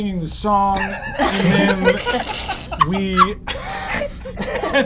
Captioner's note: all giggle